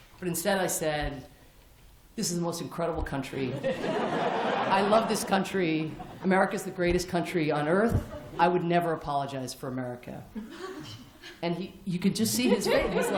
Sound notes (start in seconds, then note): 3.5 laughter